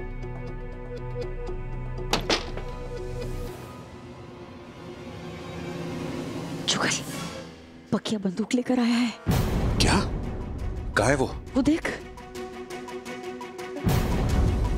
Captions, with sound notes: [door closing] Jugal! Pakiya is carrying a gun. - What? Where is he? - Look over there.